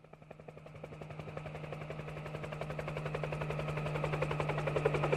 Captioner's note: helicopters whirring